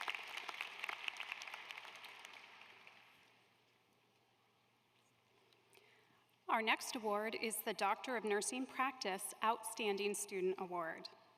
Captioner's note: applause